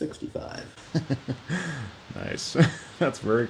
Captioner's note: laughs